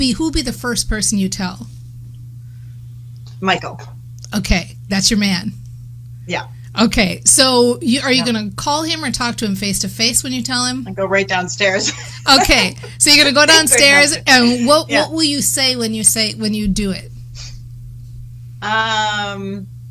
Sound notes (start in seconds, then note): 11.7 laughs